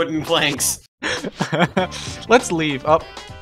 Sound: laughs

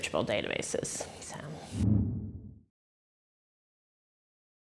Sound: graphic whooshing

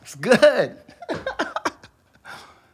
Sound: laughs

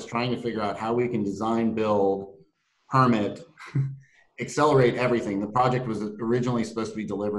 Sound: laugh

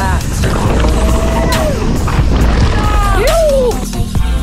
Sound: hollering

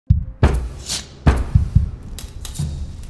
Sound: knock

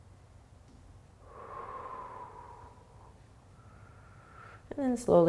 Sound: exhaling and inhaling

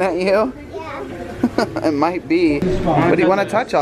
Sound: chuckling

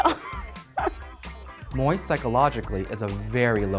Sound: laugh

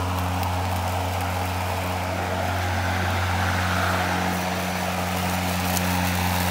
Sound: lawn mowing noises

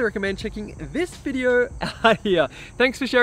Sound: chuckles

